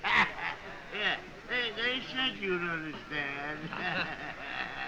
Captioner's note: laughing